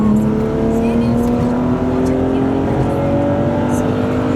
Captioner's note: engine revving